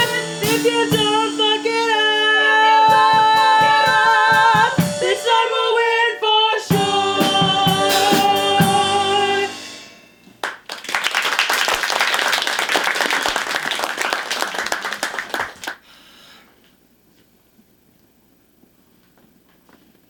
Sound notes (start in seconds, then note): 10.4 applause